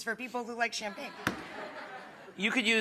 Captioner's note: audience laughs